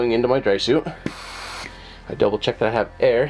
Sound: air whooshes

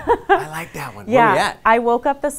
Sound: laughter

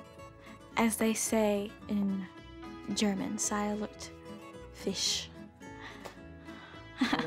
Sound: speaking german; chuckling

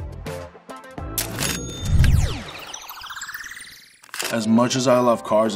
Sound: ka-ching

